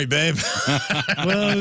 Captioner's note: laughs